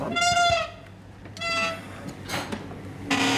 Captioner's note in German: Tür quietscht